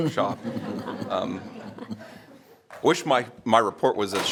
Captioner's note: members laughing